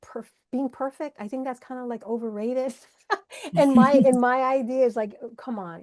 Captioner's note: laughs